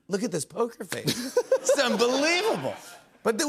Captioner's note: laughter